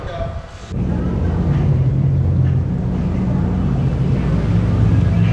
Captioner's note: multiple people talking; engines revving